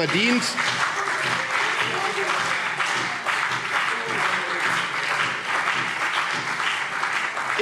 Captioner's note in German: Beifall CDU und BÜNDNIS 90/DIE GRÜNEN - Zurufe: Oh!